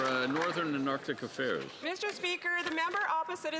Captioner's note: some Applause